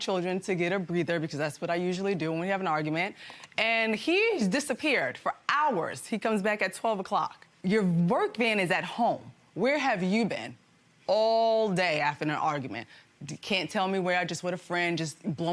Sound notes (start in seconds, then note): none